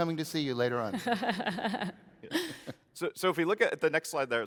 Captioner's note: laughs